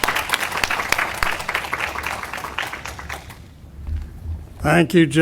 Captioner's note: audience applauding